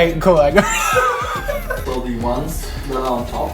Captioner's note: laughing